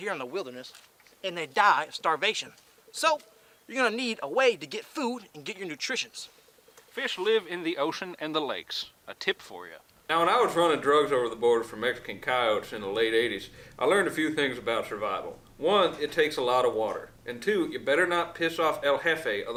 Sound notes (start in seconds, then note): none